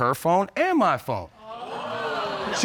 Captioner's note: audience exclaiming